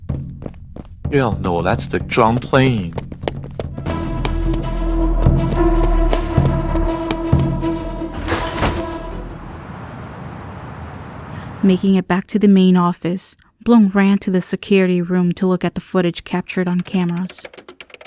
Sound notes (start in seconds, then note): 4.4 drum beating; 8.1 door slam shut